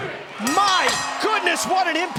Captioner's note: bell ringing